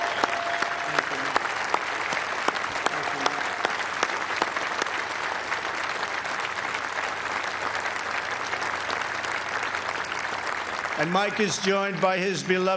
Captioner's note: applause